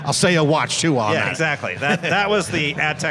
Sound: laughs

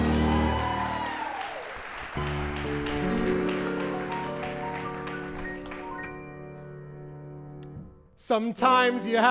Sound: applause

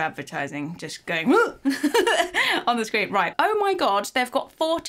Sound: laughs

